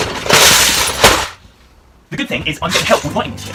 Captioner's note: crashing Lego